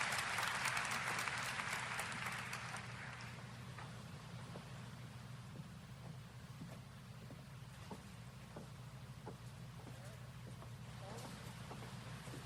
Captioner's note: applause